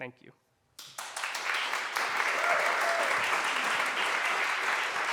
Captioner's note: aplause